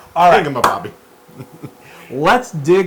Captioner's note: laugh